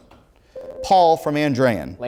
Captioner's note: ringing